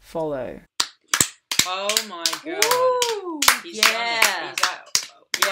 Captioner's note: applause and praise